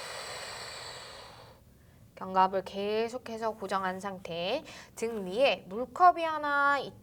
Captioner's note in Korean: 한숨